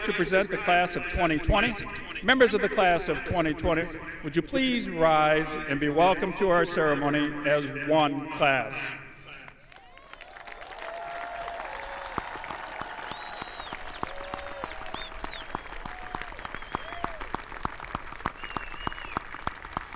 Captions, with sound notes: to present the Class of 2020. Members of the Class of 2020 would you please rise and be welcomed to our ceremony as one class. (audience applauding) (audience cheering)